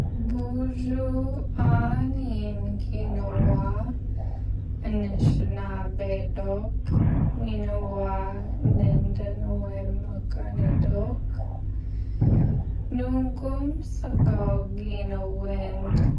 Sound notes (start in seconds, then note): 0.6 young woman speaking Ojibwe language